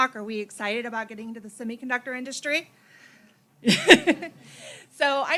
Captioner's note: laughs